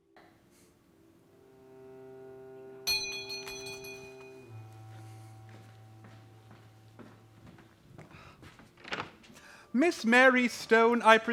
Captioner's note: doorbell rings